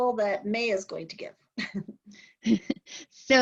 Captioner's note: laughter